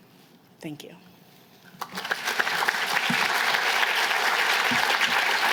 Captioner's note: applause